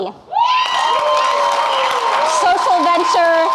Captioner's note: audience clapping and cheering